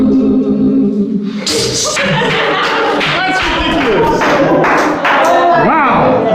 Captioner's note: applause